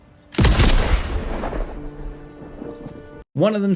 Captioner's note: gun firing